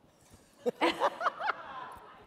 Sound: laughter

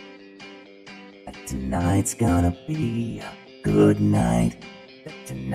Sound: seductively

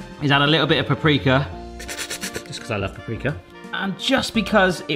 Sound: slurps energetically

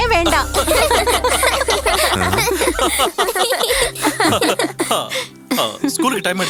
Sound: bursts of laughter

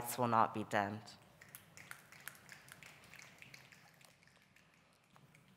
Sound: audience applauding

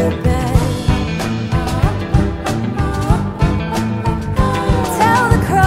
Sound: soft, wordless vocalizations repeat, this time with a rising edge of intensity

